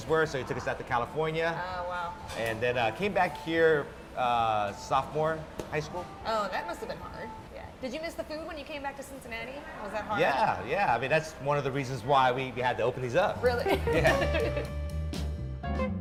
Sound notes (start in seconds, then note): 13.7 laugh